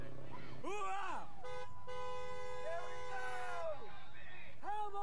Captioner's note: car honking